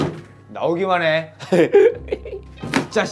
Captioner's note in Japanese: アハハ